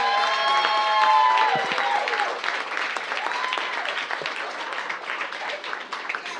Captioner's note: cheers and applause